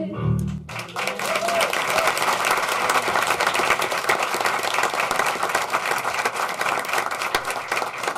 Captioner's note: applause